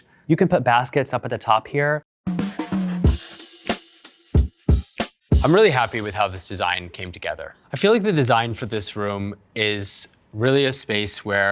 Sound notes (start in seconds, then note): 2.2 upbeat music; 2.4 pencil scribbling